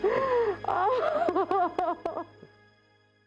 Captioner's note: crying